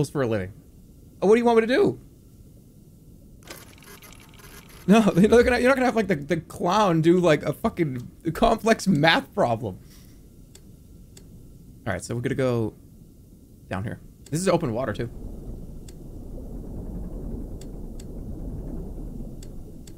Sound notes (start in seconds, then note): 3.4 machine whirring